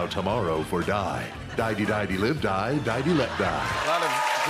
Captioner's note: laughter